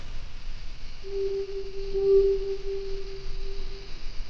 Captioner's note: owl hooting